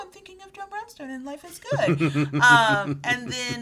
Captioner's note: laughing